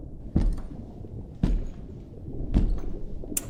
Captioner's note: foot steps